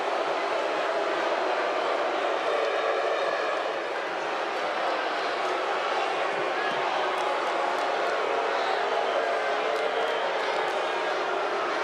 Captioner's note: crowd boos